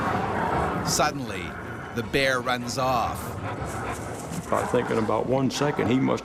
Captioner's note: voiceover